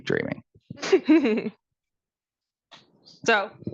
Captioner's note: laughing